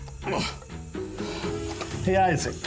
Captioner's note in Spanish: música dramática; Rogers gruñe